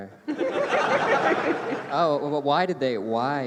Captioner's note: laughter